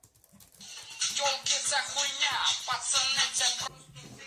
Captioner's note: tono de llamada machista